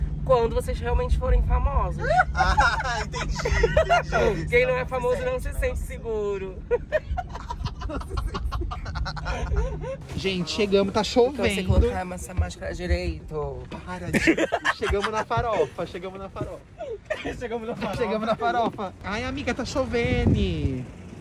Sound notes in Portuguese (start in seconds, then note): 6.6 risos; 14.1 Blogueirinha ri